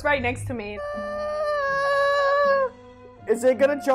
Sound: squeaks

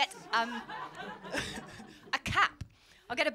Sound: laughter

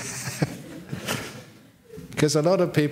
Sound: laughter; laughs

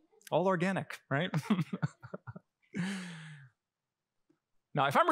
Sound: laughing

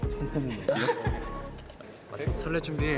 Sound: haha

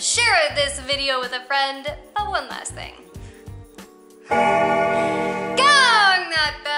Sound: bell ringing

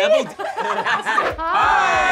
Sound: group laughing

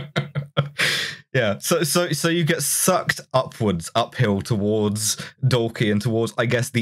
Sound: laughter

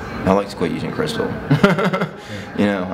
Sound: laughing

